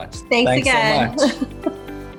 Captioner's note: laughing